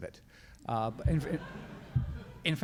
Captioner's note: crowd laughs